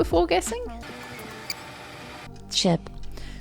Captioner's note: tape fast-forwarding